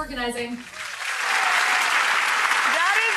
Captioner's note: audience claps and cheers